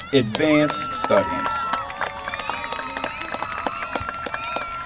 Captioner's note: applause